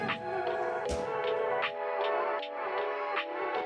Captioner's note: sounding gavel